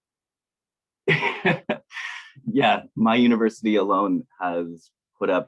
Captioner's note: laughs